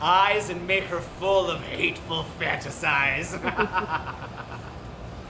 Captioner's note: laughs